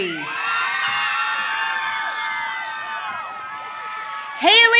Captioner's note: audience cheering